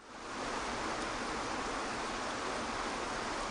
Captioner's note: water rushing